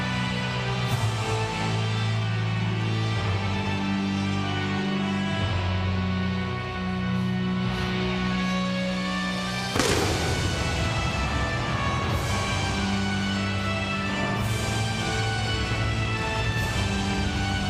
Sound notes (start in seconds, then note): 9.7 pyrotechnics bursting; 13.1 dramatic music continues